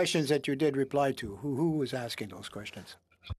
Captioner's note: speaking French